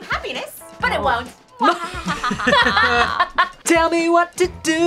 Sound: group laughs

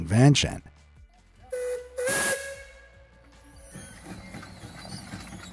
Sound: train puffing

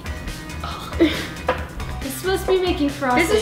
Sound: playfully gags

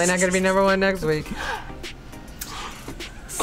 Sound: gasps

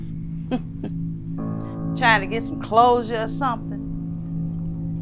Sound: chuckles

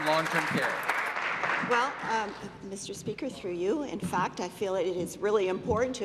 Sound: applause

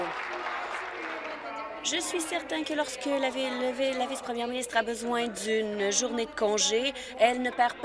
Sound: applause

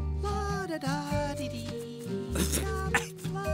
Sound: clearing throat

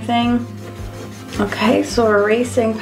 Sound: eraser rubbing

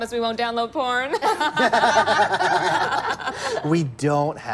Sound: all laughing

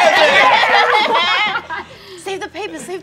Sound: all laughing

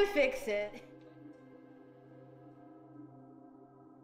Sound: eerie noises

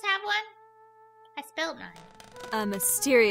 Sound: door creak, faint menacing hum

